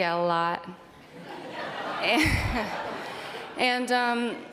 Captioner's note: audience laughing